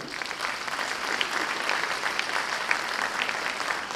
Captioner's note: audience applause